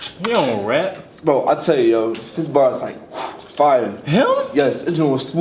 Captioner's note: blows